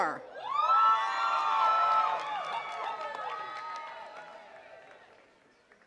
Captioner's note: attendees cheering and clapping